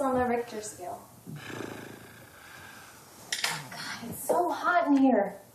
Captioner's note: snorts